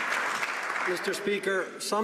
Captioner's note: some Applause